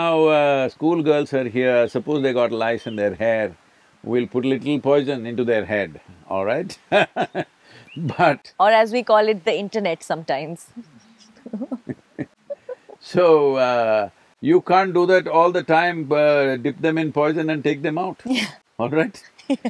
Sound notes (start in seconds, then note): 6.8 laughs; 11.9 both laugh; 18.4 Prajakta laughs